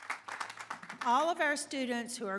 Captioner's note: applause